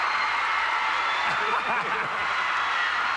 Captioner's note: chuckles